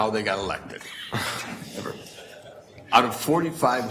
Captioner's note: chuckling